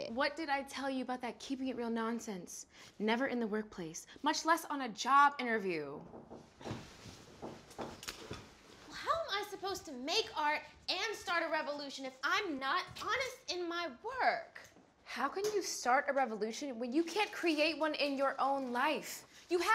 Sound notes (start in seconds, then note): 6.0 knocking at the door